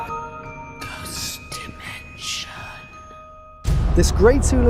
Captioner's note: whispering Voice